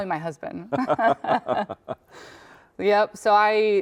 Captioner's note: chuckling